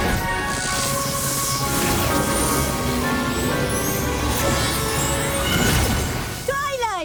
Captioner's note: whoosh; zap